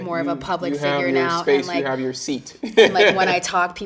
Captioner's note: chuckling